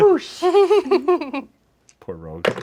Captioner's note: group laughs